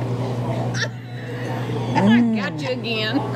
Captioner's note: laughing